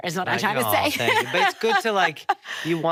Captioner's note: laughing